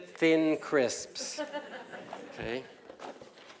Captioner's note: laugh